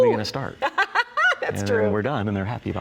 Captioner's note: chuckles